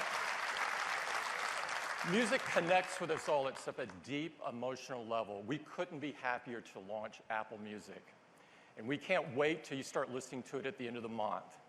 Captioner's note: cheers and applause